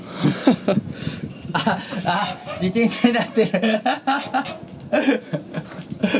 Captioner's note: laughing